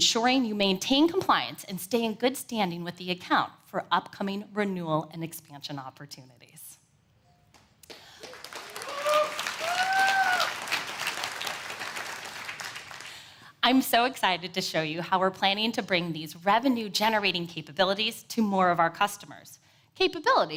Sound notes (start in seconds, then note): 7.8 applause